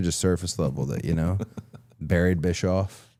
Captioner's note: Chad laughs